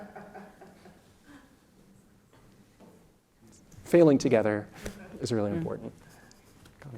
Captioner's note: laugh